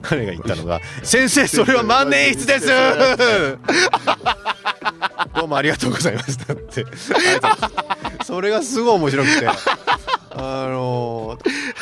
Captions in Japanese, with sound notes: 彼が言ったのが先生それは万年室です。 [笑い] どうもありがとうございます。 なってあれ。それがすごい面白くて、あの、ザ参戦うん [笑い]